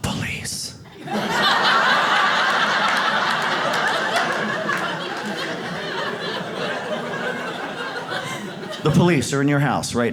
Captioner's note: whispering; audience laughs